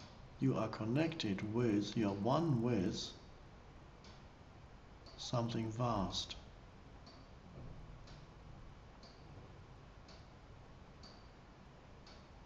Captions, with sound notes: You are connected with, you're one with something vast. (clock ticking)